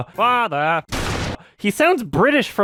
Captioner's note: laughs; gunshot